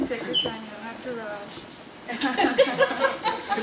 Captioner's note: all laugh at gesture